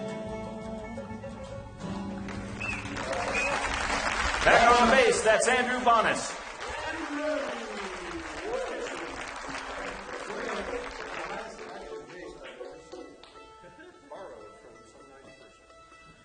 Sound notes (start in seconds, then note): 0.6 audience applause